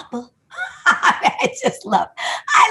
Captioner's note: laughs